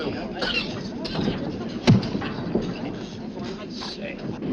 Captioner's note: people chattering